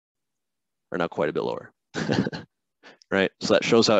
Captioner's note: chuckles